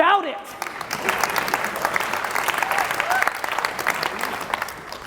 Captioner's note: audience applauding